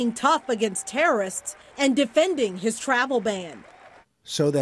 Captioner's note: cheering